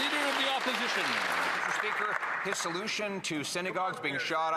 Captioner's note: some Applause